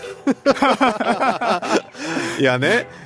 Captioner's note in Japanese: 笑い